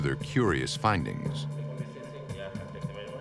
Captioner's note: chatter